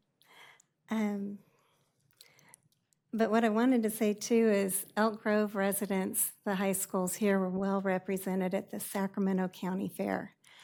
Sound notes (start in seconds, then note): none